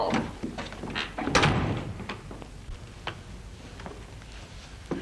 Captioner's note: door closes